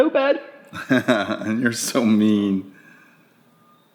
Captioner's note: laughing